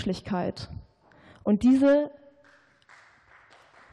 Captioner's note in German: Beifall